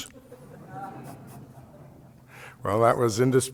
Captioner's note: laughter